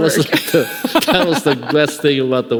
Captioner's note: laughing